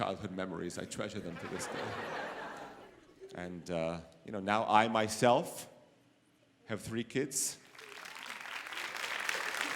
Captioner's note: applause